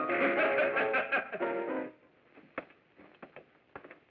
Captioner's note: laughing